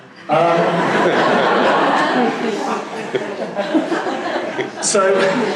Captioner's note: laughing